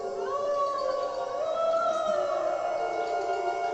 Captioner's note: creepy "woo"ing noises